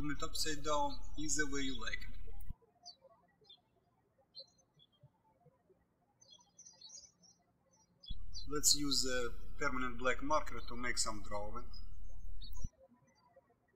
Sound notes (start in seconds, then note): 4.4 birds chirping